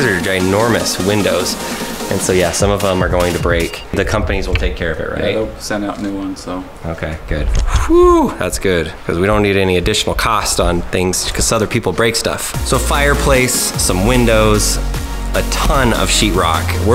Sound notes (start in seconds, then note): 7.7 sighs relievedly